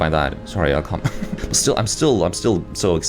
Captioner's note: laughs